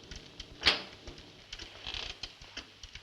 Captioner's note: door squeaks